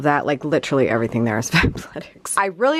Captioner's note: chuckles